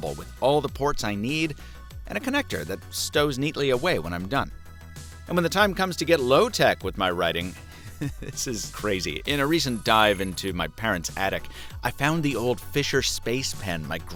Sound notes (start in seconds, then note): 7.5 chuckles